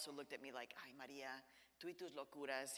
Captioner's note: speaks in Spanish